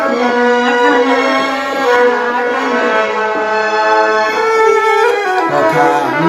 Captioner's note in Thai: ปรบมือ